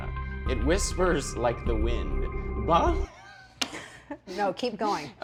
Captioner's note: laughs